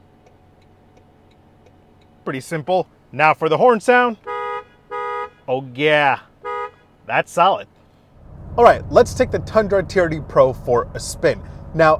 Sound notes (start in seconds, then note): 0.1 indicator clicking; 4.1 horn honks